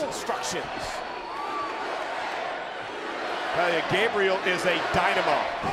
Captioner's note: crowd cheering